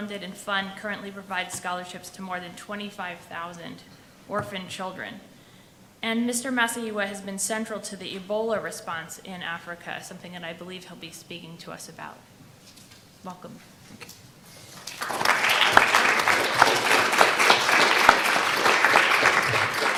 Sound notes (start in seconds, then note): 14.7 audience applause